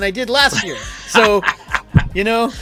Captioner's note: chuckles